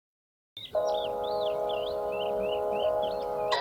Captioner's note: birdsong